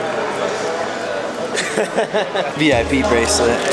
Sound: laughter

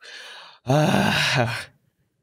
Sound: sighs

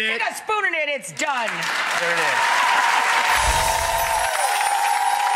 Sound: audience clapping

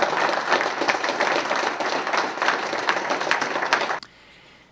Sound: applause and cheers

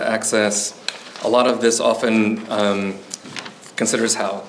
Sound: pages rustling

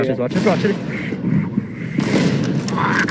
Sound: heavy Breathing

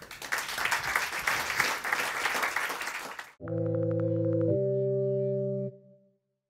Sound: applause

